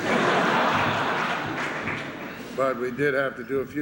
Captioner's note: laughter